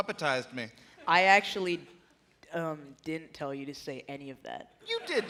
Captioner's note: laughter